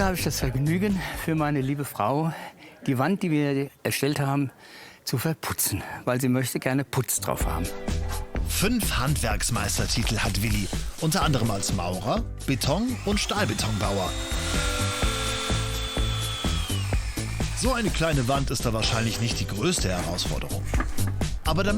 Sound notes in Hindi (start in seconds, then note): 14.1 इंजन का शोर; 15.4 सुखद संगीत